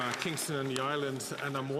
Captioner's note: applause